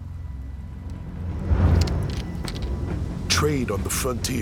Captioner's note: cocks rifle